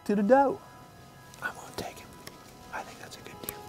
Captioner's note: whispering